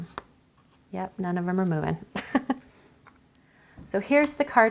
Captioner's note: laughs